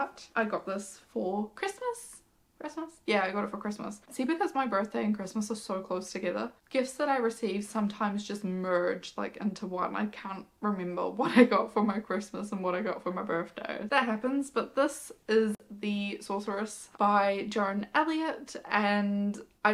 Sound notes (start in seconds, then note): none